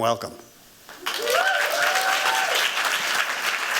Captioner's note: cheering and applause